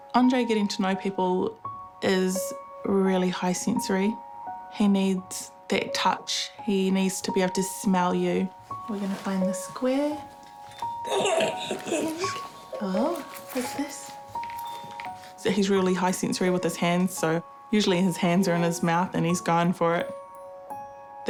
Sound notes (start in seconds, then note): 11.0 giggles